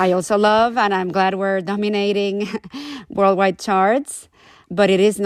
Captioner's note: laughter